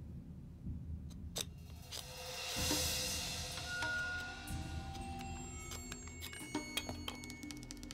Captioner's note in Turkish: Ahşap yontma sesi